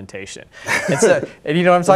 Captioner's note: laughs